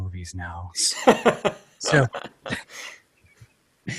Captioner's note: laughs